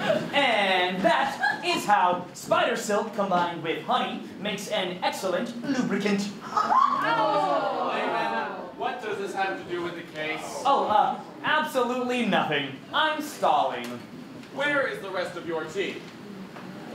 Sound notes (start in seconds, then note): 6.6 audience groans in disgust